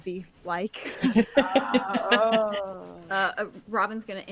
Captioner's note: chuckles